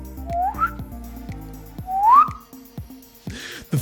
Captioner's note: whistles